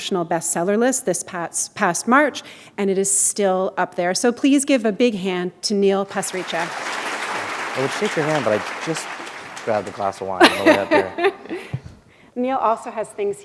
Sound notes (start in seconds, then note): 6.0 applause; 12.2 chuckle